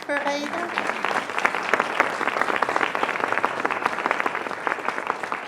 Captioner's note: audience applauding